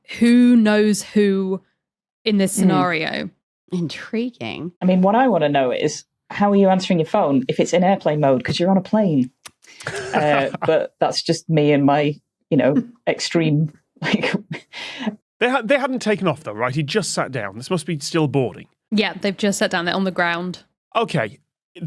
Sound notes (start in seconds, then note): 9.8 chuckles; 14.4 snickers